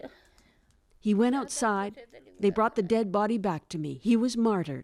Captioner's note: speaking Foreign Language